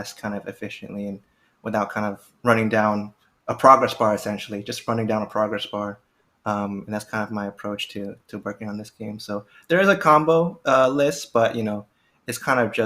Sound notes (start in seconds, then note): none